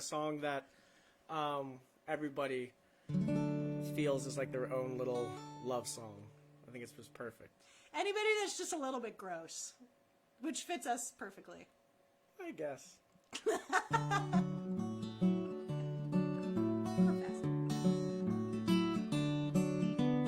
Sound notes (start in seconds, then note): 13.3 laughter